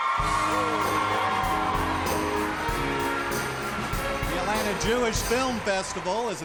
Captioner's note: cheers and applause